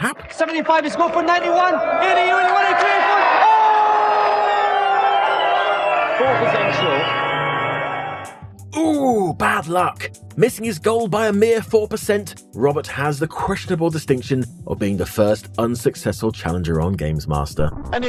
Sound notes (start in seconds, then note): 0.8 General excitement from Dom and crowd; 3.7 General disappointment from Dom and crowd